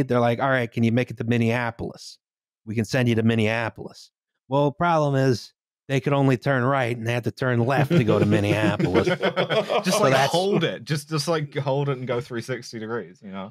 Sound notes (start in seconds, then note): 7.7 laughter